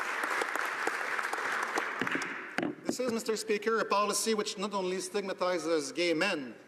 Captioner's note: applause